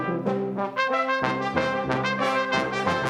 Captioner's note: none